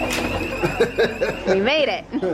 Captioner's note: laughs